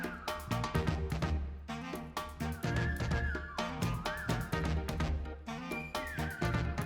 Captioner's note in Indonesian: Blowing